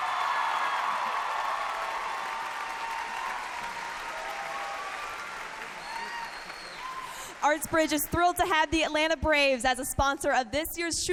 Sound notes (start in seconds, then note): 4.7 cheers and applause